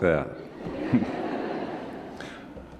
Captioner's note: laughter